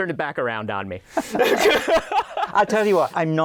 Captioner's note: laughter